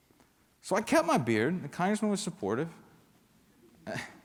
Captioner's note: laughter